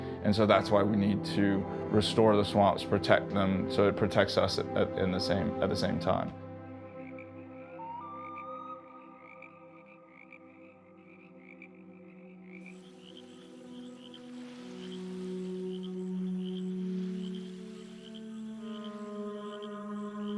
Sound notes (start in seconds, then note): 6.4 frogs ribbeting; 6.4 light music; 12.6 water flowing; 12.8 serene music